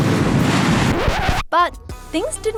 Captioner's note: record scratches